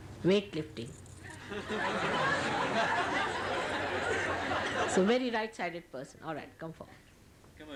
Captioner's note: laughter